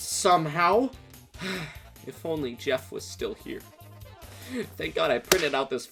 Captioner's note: sighs